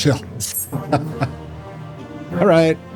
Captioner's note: laughter